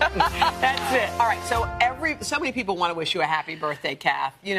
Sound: applause

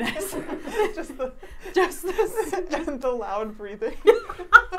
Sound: laughing

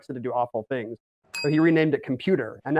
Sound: bell dings

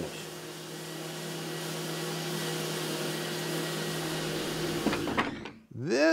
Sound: sander revving

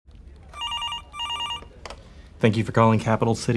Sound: phone ringing

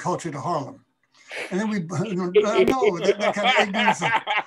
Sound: man laughing

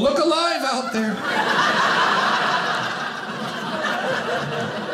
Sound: audience laughing

